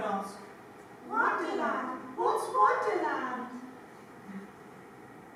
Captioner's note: in Alice's voice